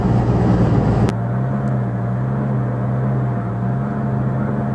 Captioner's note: electric fan, engine and crow cawing sounds